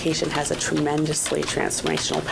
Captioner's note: nat pop: typing